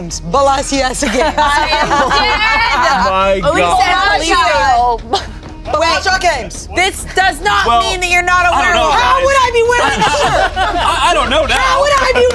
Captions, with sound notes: - Belize Games. Belasiasa Games. (everyone laughs) - I am dead! - My god. - Oh my god. - Belasha Games. - This does not mean that you're not a Werewolf. - How would I be wearing the shirt? - I don't know now.